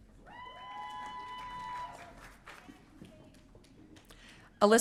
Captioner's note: audience cheering